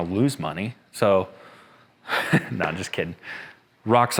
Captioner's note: laughs